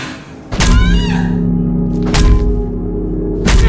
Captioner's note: dramatic music; Jan screaming; bat thudding; flesh squishing